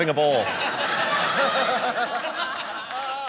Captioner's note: laughter